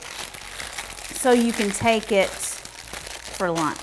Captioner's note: paper rustling; paper rustling some more